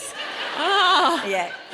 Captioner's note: audience laughs